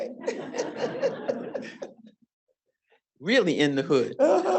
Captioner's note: audience laughing